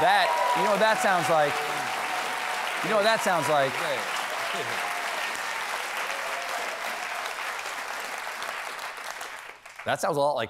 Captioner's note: cheers and applause